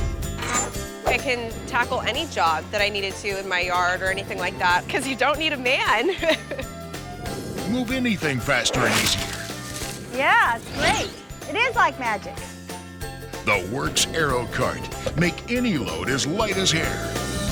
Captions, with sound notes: - It can tackle any job that I need it to in my yard or anything like that 'cause you don't need a man. (laughs) - [Voiceover] Move anything faster and easier. - Yeah, it's great. It is like magic. - [Voiceover] The WORX Aerocart. Make any load as light as air.